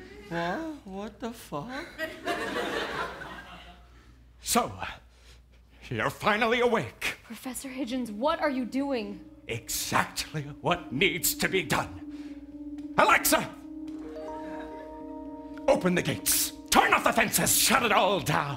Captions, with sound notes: Wha-? What the fuck? So You're finally awake. Professor Hidgens. What are you doing? Exactly what needs to be done! Alexa (Alexa chime) Open the gates! Turn off the fences, Shut it all down!